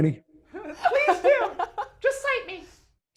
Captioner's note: laughs